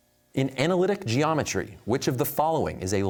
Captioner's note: none